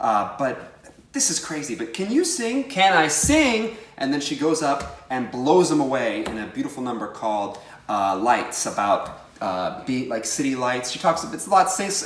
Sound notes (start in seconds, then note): none